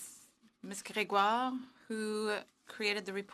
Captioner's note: speaking French